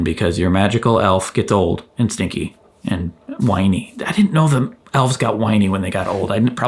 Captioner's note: none